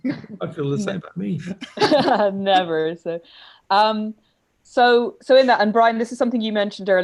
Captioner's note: laughter